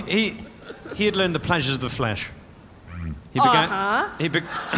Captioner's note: excited